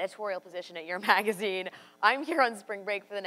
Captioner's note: laughs